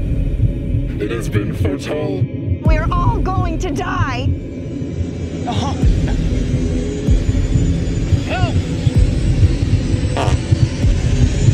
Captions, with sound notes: We're all going to die! (Laughing) Help! (Fart)